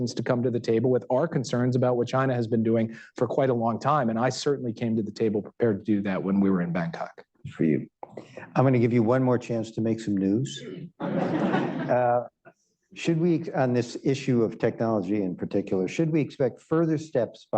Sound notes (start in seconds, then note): 11.0 laughter